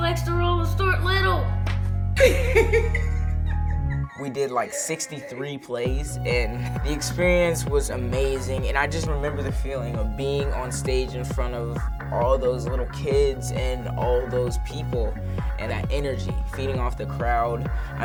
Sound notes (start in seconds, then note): 2.2 laughs